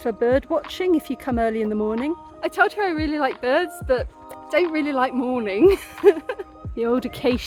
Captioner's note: laughing